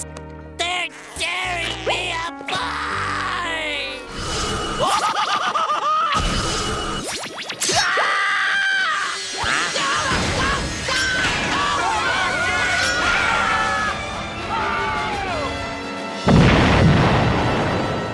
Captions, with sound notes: They're tearing me apart! [screaming] [screaming] [screaming] [screaming]